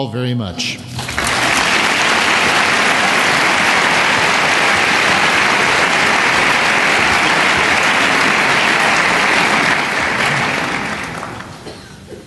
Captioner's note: applause